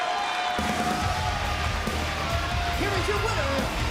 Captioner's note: bell rings